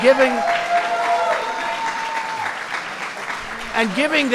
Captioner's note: applause